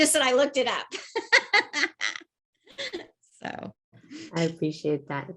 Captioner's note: laughs